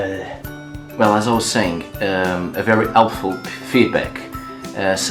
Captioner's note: aah